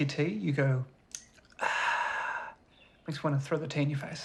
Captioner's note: exhales